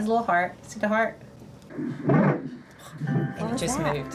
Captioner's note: heartbeat thumps over ultrasound